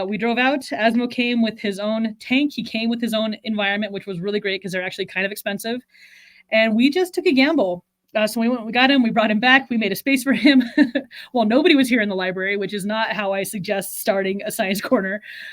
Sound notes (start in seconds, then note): 10.4 chuckles